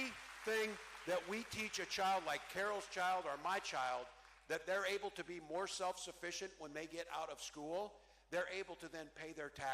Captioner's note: cheering